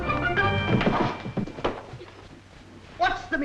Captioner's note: bodies thudding